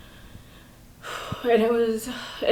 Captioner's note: sighs